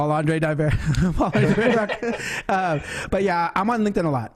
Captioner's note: laughs